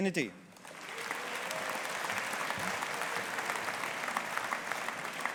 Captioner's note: audience applauding